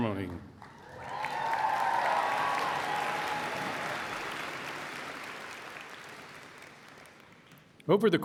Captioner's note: applause and Cheering